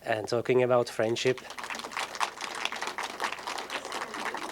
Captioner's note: applause